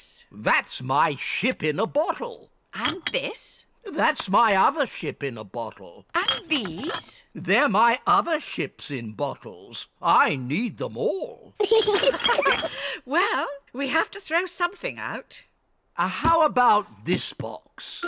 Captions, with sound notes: -That's my ship in a bottle. -And this? -That's my other ship in a bottle. -And these? They're my other ships in bottles. I need them all. -(ALL LAUGH) -Well, we have to throw something out. How about this box?